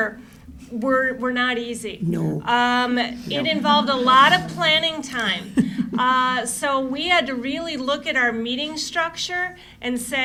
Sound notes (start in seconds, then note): 5.4 laughter